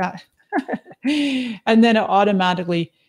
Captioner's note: laughs